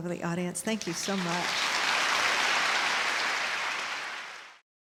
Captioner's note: applause